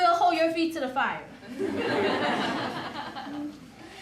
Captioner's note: laughter